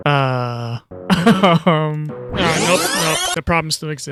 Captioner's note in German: nervöses Lachen